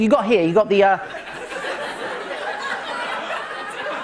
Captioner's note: light laughter